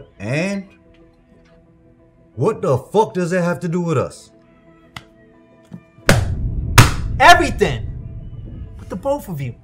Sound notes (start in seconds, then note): 6.0 folder slamming; 6.7 hand slamming